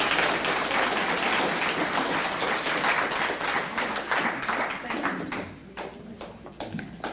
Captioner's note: applause